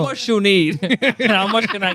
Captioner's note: laughing